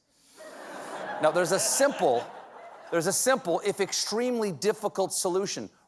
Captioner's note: laughter